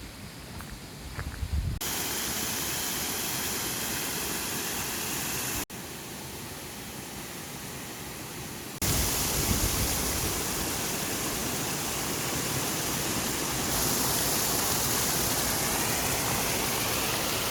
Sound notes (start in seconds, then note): none